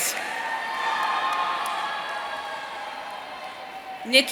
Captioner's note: audience cheering